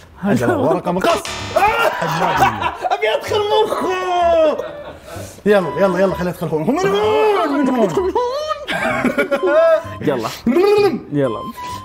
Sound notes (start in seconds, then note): 1.7 all laughing; 6.5 mumbling and laughing